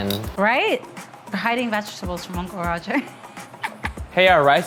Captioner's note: laughs